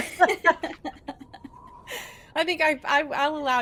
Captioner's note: laugh